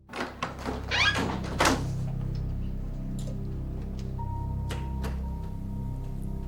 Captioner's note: suspenseful music; door squeaks